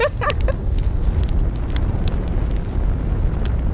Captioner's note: laughs; fire crackling